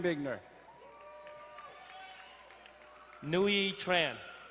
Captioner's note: crowd cheering and applauding